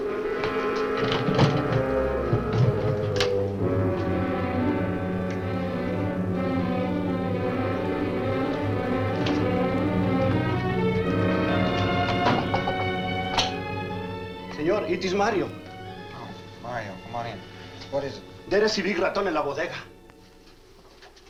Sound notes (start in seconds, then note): 0.2 window shutter clunks; 12.0 knocks on door; 18.9 Mario speaks Spanish